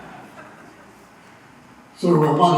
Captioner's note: applause